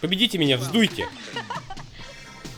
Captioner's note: laughs